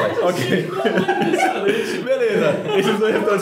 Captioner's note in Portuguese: risos